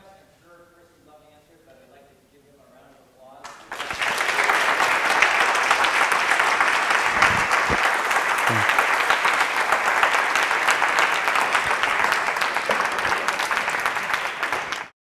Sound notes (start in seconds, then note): 3.6 applause